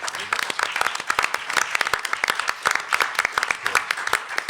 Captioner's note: panelists and audience applauding